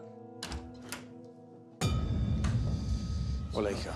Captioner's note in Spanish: sonido al abrir la puerta